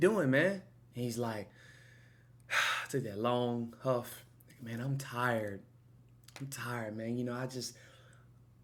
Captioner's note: long Huff